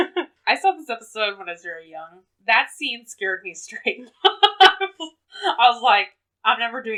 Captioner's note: laughs